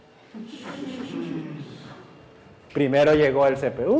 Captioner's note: class laughs